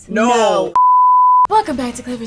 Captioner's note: beep